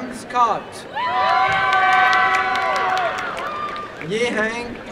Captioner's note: applause and cheering